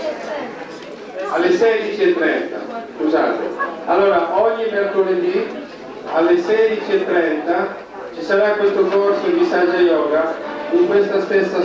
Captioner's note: italian; italian